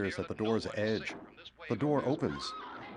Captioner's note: screams